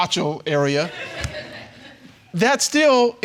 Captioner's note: audience laughing